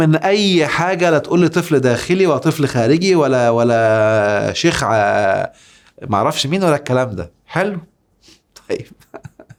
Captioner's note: sarcasm!